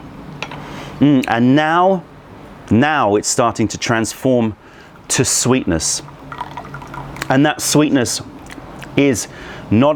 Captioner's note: pouring tea